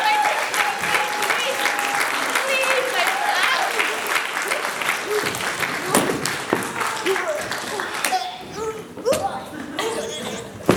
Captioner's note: applause